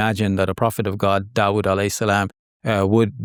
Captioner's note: speaks a foreign language